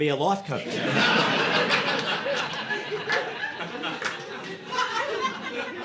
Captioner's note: audience laughing